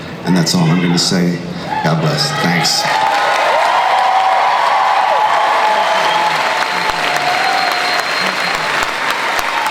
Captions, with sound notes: and that's all I'm gonna say. God bless, thanks. (crowd cheers and applauds)